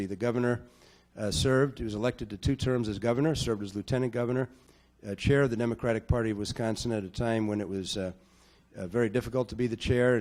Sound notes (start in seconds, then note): none